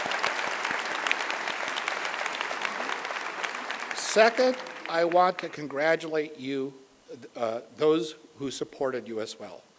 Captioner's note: applause